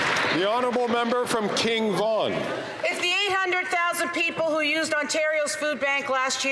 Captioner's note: some Applause